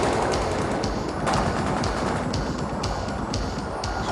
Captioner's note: guns firing